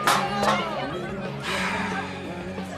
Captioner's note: slGHS